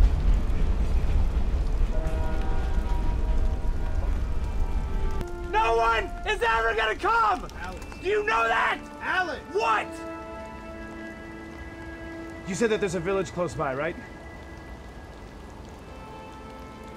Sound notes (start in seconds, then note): 1.9 horn honks